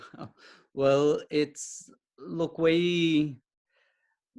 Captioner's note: chuckles